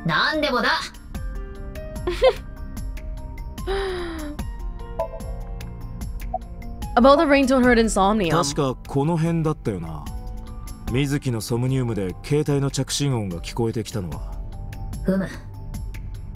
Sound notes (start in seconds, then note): 2.1 chuckles